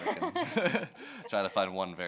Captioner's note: laughter